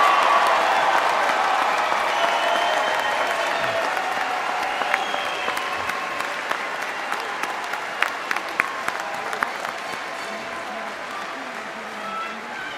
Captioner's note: applause